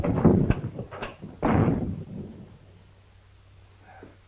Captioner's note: door slams